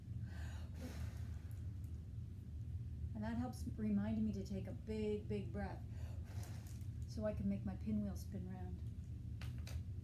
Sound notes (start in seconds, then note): 0.0 exhale; 0.3 inhale; 5.9 exhale